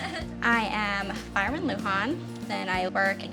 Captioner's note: laughter